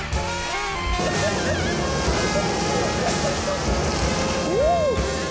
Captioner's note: laughing